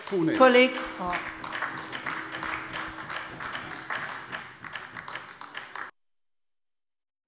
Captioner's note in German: Beifall bei der LINKEN